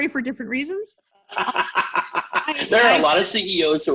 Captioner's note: laughs